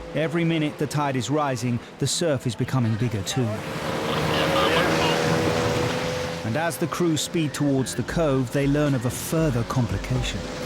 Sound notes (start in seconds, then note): 2.9 boat motor roars